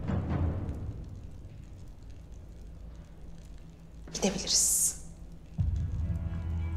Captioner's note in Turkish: Ateş çıtırtısı sesleri